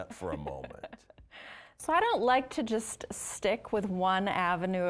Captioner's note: laughing